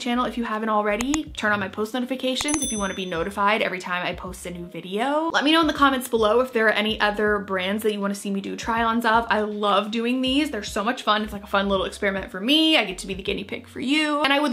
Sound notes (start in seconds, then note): 1.0 mouse clicks; 2.4 bell ringing